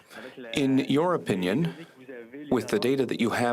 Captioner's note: speaking French